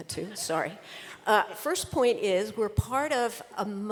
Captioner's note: laughter